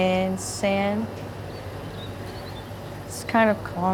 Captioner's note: tinny birdsong